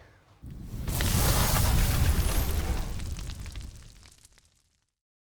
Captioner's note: electricity sizzling